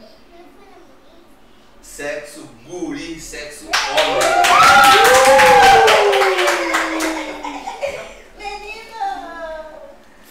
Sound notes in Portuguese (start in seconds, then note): 3.6 gritos e palmas em comemoração; 7.1 risos